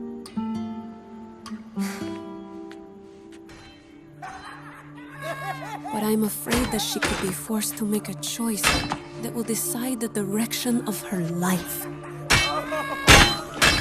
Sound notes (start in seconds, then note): 4.0 thugs laughing